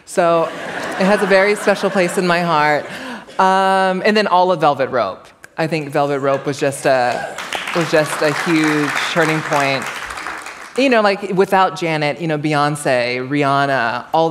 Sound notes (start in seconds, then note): 7.0 applause